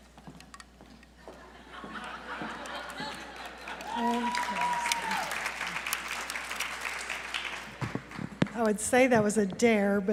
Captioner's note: laughter; applause